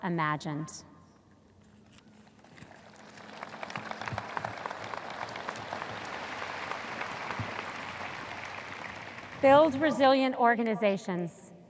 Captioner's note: audience applause